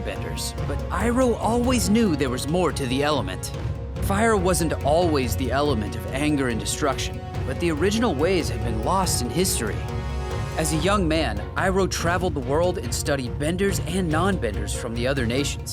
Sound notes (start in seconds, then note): none